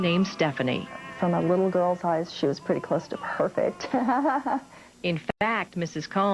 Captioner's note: laughter